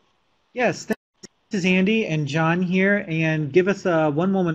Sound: voiceover

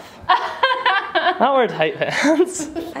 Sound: laughing

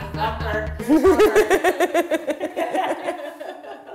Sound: laughing

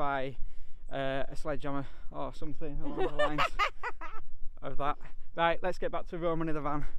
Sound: laughing

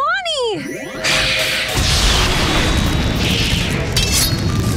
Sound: whooshing

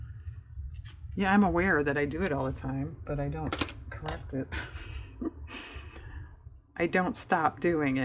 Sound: laughs

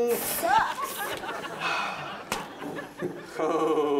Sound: sighs

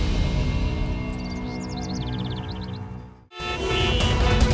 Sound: birds chirping

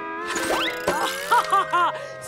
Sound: laughing

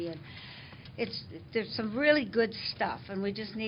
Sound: none

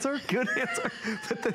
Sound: laughter

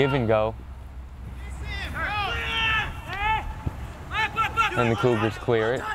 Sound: players talking and yelling

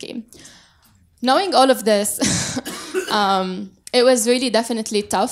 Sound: laughs

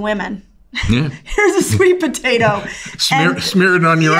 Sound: laughs

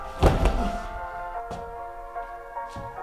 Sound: grunts

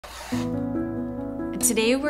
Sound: knife scraping; bright music

